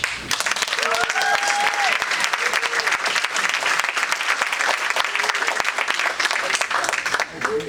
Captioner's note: audience applauding